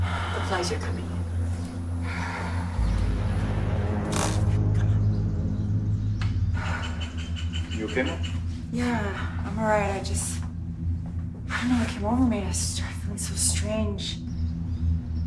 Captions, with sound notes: The flies are coming in. (Bethany sighs) (dark, foreboding music) Come on. - You okay, Mom? - Yeah, I'm all right, I just, I don't know what came over me, I started feeling so strange.